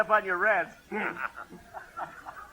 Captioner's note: laughing